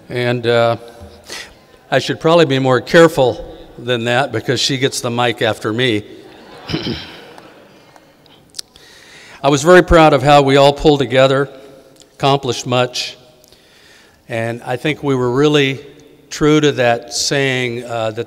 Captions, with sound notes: and I should probably be more careful than that because she gets the mic after me. (audience laughing) I was very proud of how we all pulled together, accomplished much, and I think we were really true to that saying,